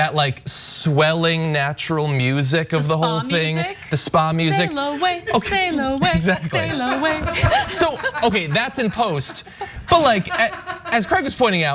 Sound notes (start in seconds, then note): 6.2 laugh